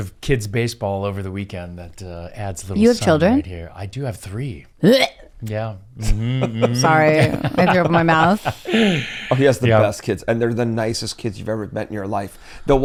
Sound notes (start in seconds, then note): 6.0 gags; 6.0 laughing; 6.0 laughs